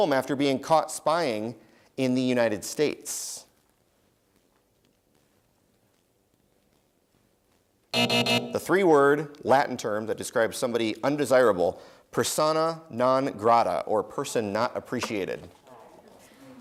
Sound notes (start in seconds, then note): 7.9 buzzer